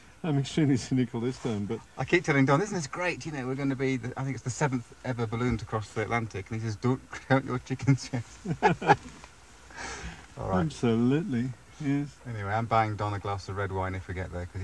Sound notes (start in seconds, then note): 7.8 laughing